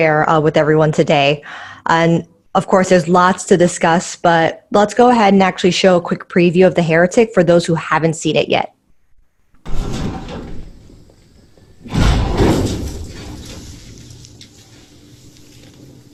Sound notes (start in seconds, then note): 9.6 thud; 11.7 banging door